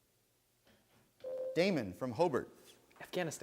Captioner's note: bell rings